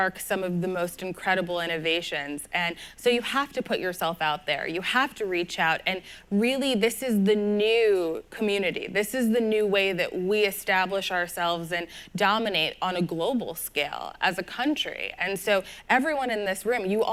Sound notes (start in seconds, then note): none